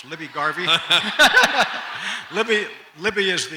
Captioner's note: audience laughs